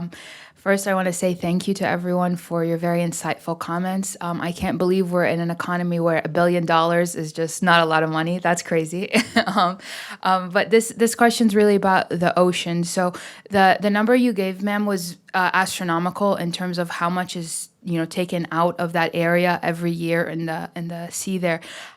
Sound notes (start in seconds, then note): 9.1 laughter